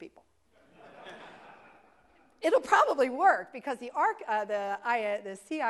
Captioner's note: laugh